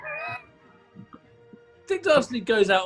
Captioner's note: sniggering